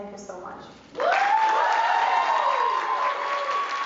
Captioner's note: applause and Cheers